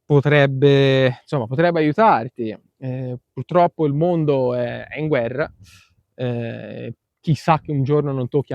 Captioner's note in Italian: sbuffare